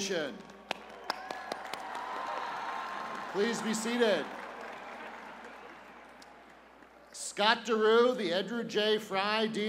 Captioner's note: cheers and applause